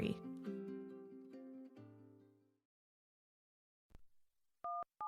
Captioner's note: ringtone